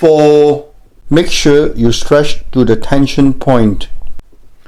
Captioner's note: voiceover